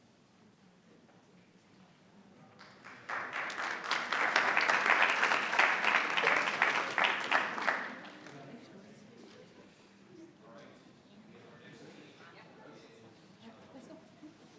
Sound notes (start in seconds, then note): 2.6 attendees applauding; 9.8 people chattering